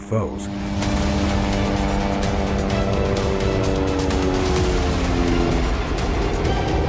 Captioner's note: daunting music; helicopter whirs